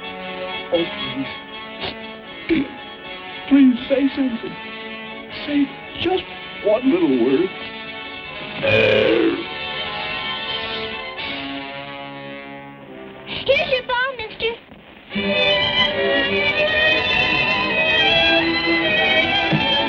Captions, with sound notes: Oh please, please say something. Say just one little word. [croaking] Here's your ball, mister.